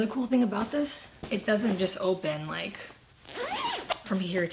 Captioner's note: zipper zips